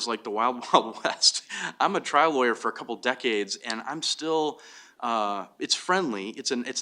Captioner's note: laughs